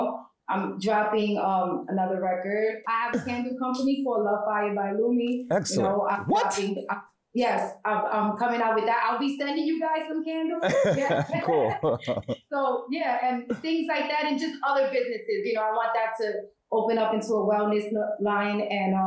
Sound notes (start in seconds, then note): 10.6 laughs